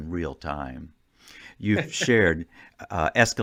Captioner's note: laughing